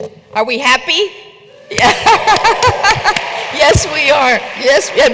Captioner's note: applause